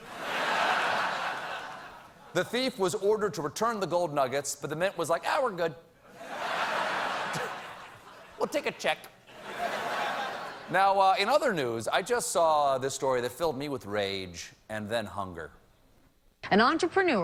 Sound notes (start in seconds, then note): 0.0 laughter; 6.1 laughter